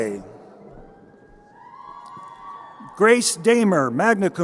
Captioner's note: crowd cheering